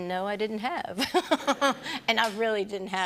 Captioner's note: laughter